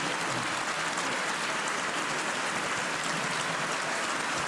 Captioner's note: cheers and applause